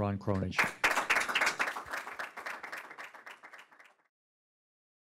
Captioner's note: audience applauding